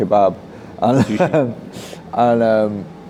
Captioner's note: chuckles